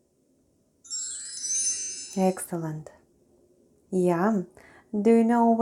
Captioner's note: chime sound